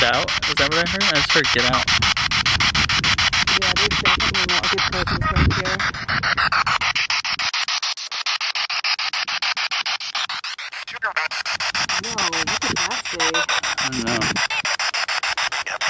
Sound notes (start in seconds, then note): 7.1 spirit box sound